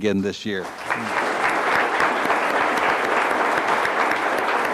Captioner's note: audience applauds